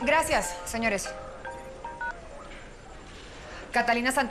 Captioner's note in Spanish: Suena el celular